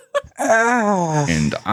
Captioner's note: giggles; Pained Fi-Fi Noises